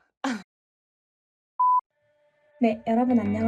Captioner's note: beep